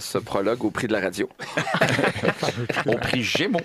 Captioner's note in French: rires